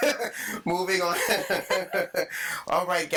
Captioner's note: all laughing; laughing